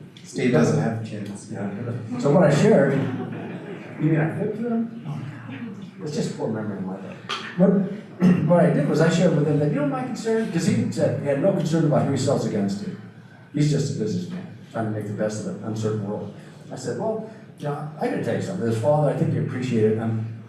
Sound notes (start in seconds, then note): 2.1 audience laughter